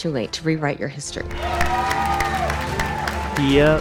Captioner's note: cheering